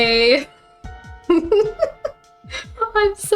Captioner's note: giggling